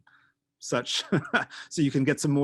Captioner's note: laughing